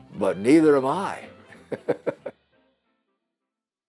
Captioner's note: chuckles